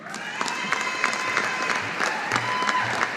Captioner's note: audience applauding